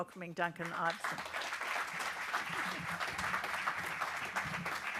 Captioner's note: audience applauding